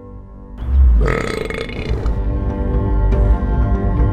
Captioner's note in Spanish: eructa